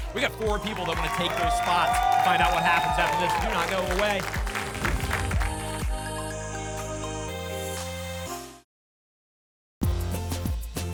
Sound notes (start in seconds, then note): 4.5 applause and cheering